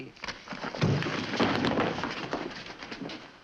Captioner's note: thump and scuffling